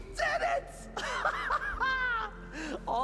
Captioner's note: laughs